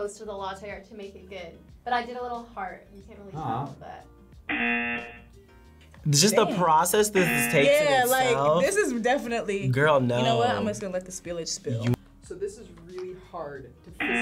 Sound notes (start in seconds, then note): 4.5 buzzer; 14.0 buzzer